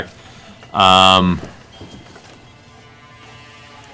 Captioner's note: none